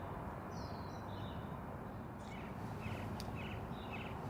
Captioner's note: birds chirping